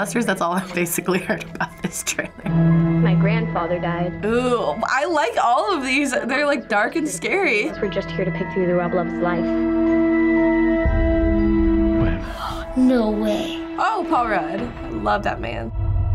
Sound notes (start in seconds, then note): 12.1 gasps